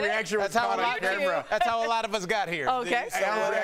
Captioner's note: laughter